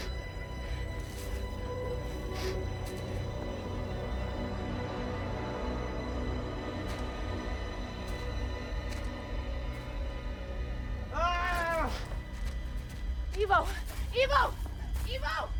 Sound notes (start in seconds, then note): 11.1 screaming